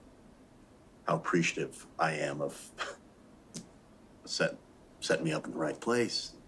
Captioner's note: laughs